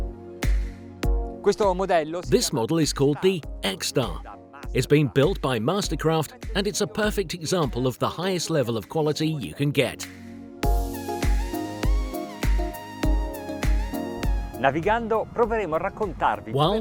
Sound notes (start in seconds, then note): 1.4 speaking foreign language; 10.6 dance music; 14.7 speaking foreign language